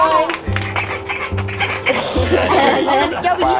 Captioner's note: laughter; squeaks the noise maker behind his back